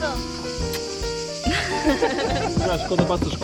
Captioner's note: kiss